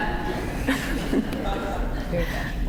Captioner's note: laughter